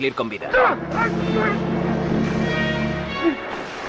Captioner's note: Greer grunts